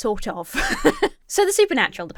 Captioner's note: laughs